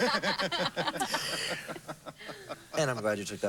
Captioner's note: laughter